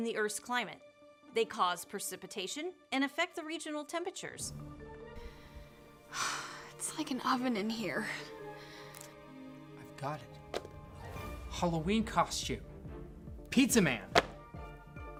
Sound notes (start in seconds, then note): 6.0 sighs